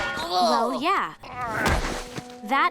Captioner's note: groaning